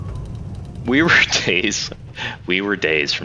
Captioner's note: laughs